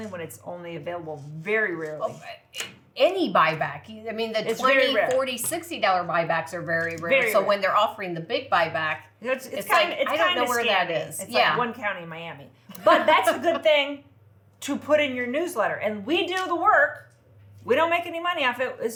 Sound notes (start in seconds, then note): 12.7 laughs